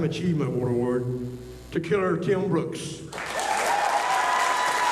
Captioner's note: applause